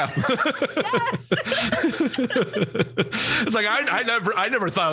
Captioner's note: both laughs